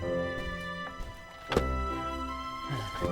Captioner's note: clonk